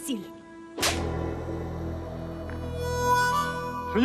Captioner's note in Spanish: bofetada